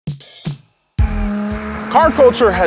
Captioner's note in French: moteur tournant